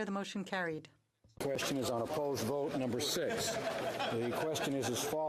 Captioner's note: speaking French